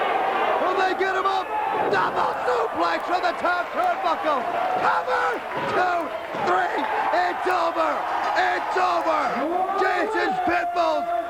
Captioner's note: crowd chatter